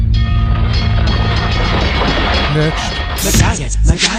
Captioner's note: railroad crossing bell rings; rapping